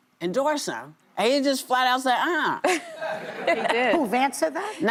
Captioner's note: laughter